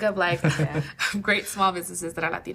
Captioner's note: laughing